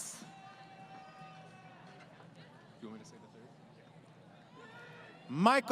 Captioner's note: crowd Cheering